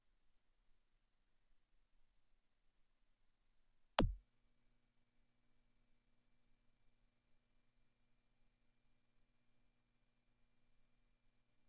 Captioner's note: silence